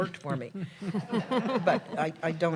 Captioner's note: laughter